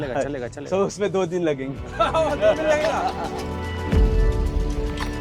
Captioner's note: laughs